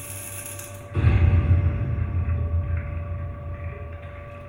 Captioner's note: loud crash echoes